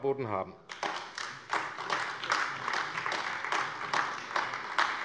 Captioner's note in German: Beifall AfD